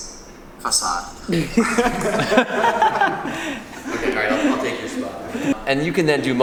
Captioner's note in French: Rires